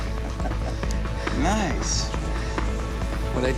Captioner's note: chuckles